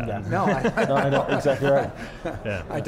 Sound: laughs

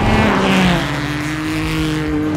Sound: car engine roaring

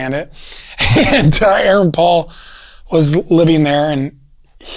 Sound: laughs

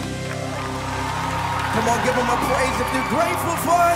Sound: cheers and applause

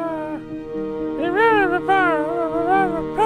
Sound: sighs

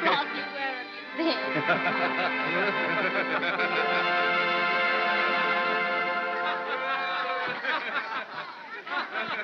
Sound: laughter

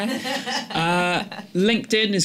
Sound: laughter

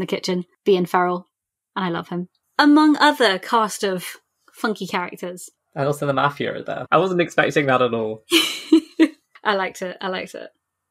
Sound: laughs

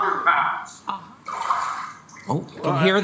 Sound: water splashing

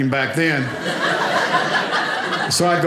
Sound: audience laughing

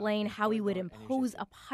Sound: speaking French

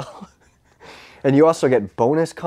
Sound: chuckles

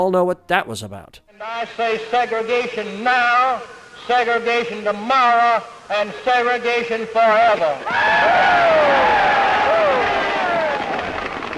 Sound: cheers

